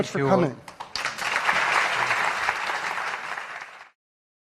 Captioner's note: audience clapping